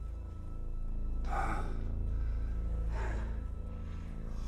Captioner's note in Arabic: مايكل يتنهد